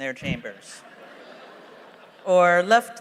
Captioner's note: laughter